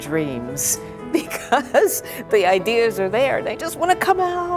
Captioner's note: laughs